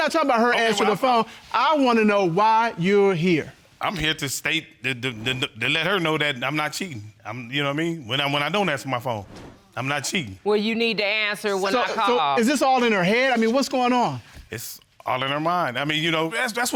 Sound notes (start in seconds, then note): none